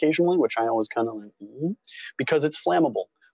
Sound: questioning noise

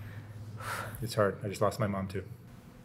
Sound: sighs

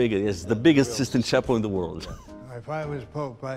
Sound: laughs

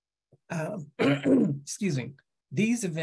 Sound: clears throat

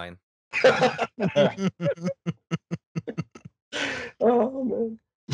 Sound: laughter

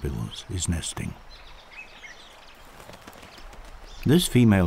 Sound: birds chirping

